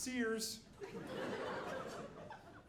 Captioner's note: audience laughing